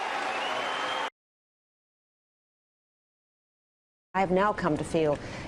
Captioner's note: cheers, applause